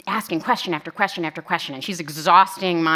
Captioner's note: none